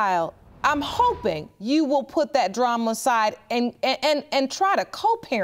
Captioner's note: none